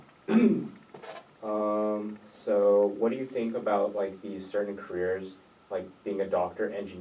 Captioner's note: clears throat